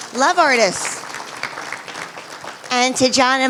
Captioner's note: applause